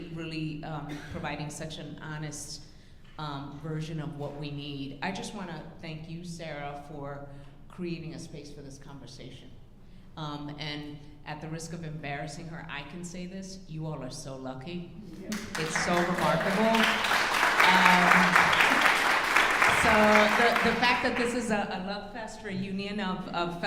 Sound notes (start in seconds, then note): 17.3 audience applauding